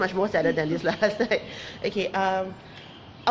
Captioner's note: chuckles